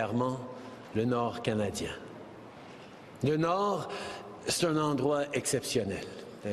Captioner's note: speaking French